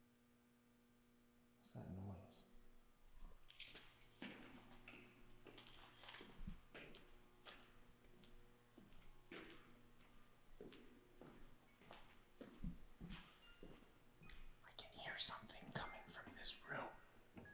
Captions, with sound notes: What's that noise? (keys clanging) (slow tempo gentle music) I can hear something coming from this room.